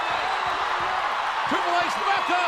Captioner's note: audience cheers